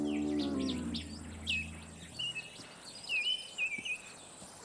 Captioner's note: light guitar music; birds chirping